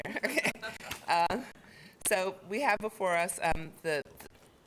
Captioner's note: chuckles